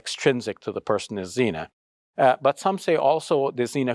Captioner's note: speaks Arabic